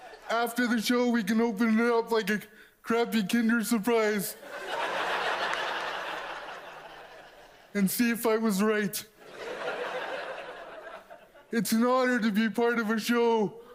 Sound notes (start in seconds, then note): 4.4 audience laughs